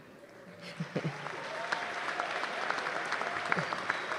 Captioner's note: applause